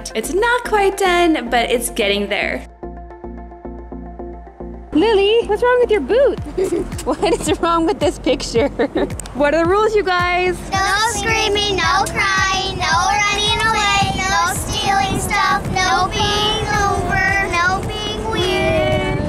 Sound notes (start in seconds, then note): 3.2 soft electronic music; 6.4 laughs